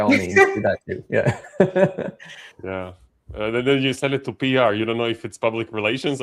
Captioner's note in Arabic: ضحك